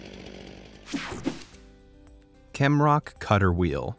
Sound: air whooshing

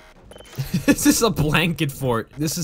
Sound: laughing

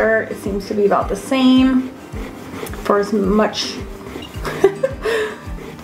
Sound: laughs

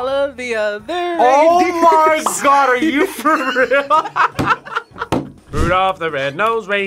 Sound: laughs

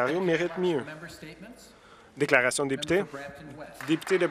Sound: some Applause

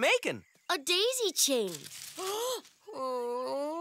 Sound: gasps, saddened groan

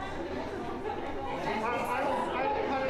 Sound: people chatter

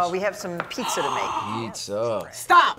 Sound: gasps

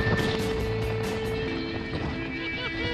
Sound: wind gusts

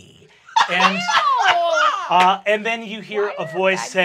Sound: laughs

